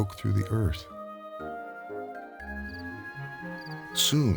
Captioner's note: gentle orchestral music; animals chirping